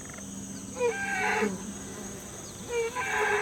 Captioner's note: donkey braying